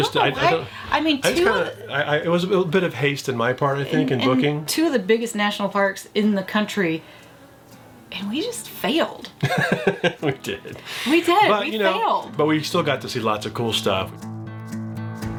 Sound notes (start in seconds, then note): 9.4 chuckles